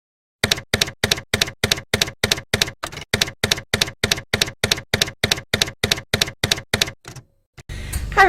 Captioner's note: typewriter keys clacking